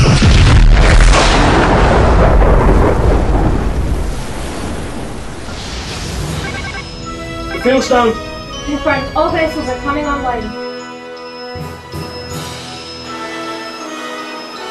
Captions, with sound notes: (Explosion) (Alarm) The field's down. Confirmed. All vessels are coming online.